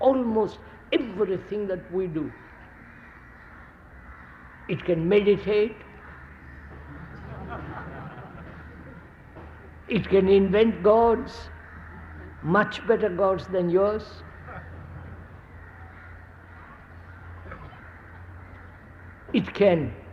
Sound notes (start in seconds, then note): 6.8 laughter